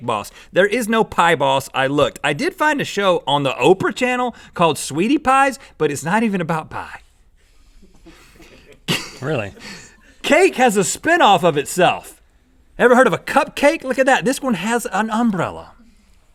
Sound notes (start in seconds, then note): 7.8 laughing